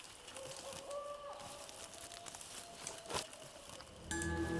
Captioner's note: footsteps in the woods; owls hooting; suspenseful music